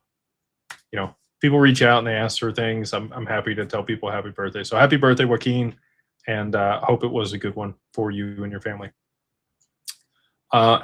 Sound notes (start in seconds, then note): none